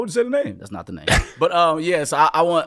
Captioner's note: laughing